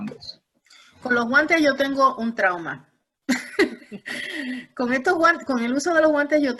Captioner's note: risas